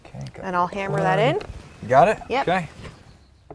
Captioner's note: hammering